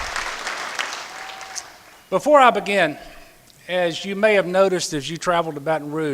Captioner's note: applause